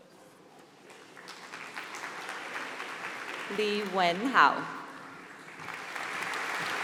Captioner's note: applause